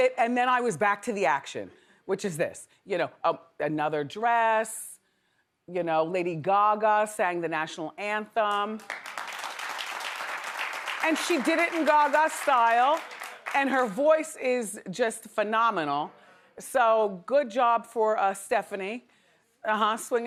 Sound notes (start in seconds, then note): 8.8 audience applauds